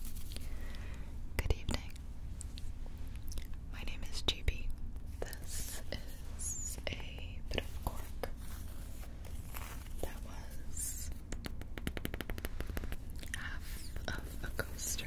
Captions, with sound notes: - Good evening. My name is J.P. This is a bit of cork that was (tapping cork) half of a coaster.